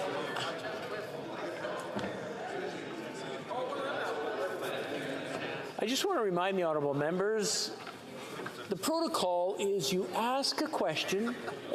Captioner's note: chatter